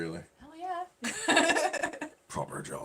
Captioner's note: laughing